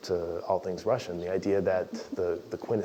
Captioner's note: laugh